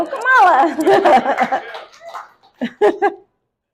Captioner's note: audience applauds; laughs